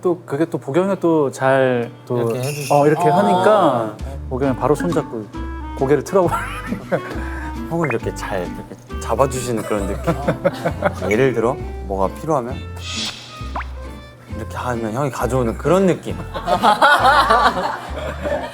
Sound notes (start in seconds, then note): 12.7 tap tap